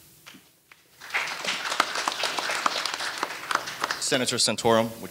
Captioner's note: audience applauding